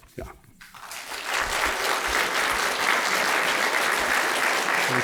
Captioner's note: applause